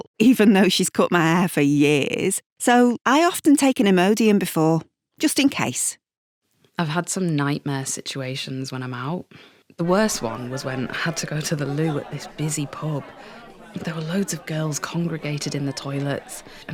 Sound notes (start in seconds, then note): 12.4 noisy pub sounds